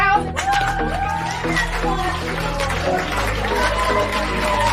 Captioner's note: audience cheering